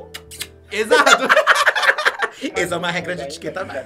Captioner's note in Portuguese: risos